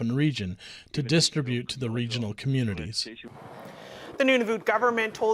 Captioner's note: speaking Indigenous language